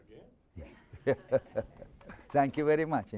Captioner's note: chuckling